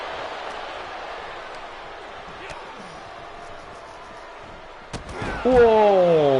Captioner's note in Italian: Applauso